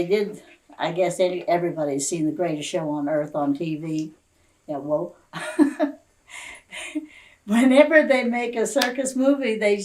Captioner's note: laughs